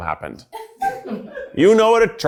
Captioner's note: people at the background laughs happily